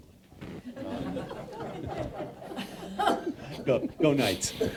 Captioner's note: audience laughing